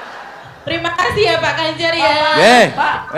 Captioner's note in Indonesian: tertawa